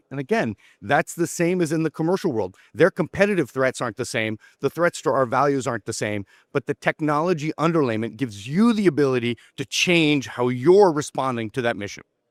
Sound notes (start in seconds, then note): none